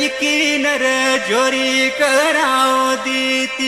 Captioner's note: none